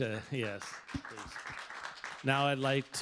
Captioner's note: applause